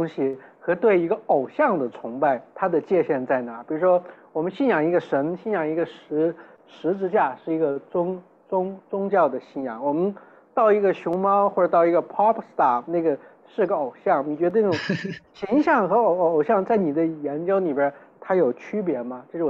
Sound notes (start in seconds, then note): 14.7 laughs